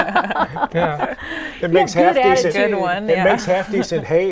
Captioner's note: laughing